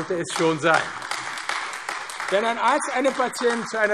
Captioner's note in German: Beifall AfD